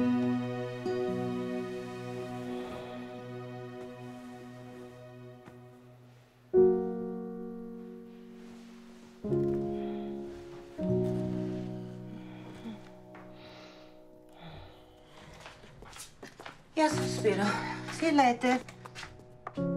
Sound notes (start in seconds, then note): 10.8 snoring